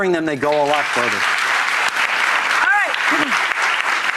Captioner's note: audience applauds